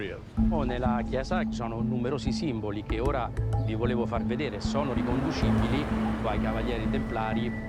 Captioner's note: Italian